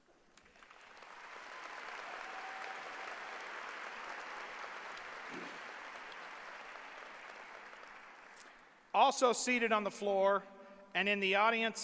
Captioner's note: applause